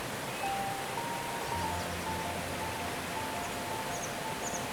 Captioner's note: birds chirping